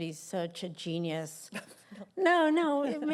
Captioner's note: laughter